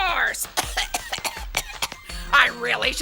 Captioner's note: coughing